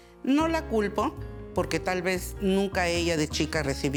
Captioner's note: speaking Spanish